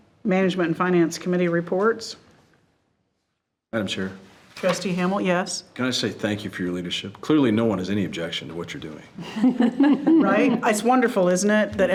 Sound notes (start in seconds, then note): 9.2 all laughing